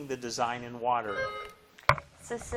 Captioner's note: bell dinging